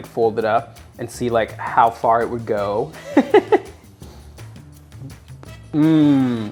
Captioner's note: laughing